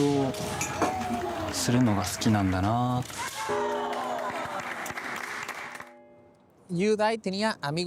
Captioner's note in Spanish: aplausos